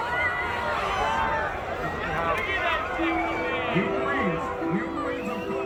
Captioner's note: crowd chatter